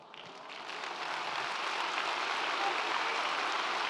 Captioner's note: audience applauds